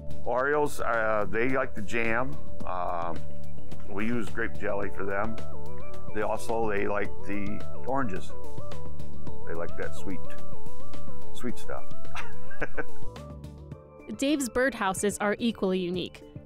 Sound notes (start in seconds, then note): 12.1 laughs